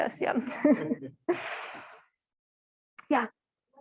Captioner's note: and the audience laughing